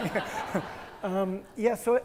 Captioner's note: attendees laugh